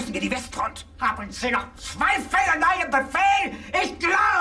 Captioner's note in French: criant dans un anglais simple